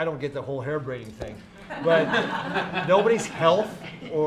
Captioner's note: laughter